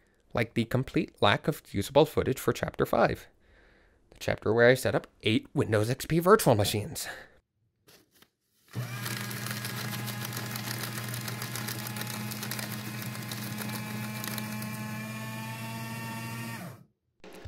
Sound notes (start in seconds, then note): 8.7 shredder go brrrr